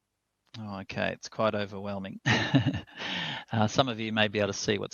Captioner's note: laughs